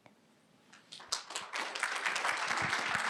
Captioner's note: applause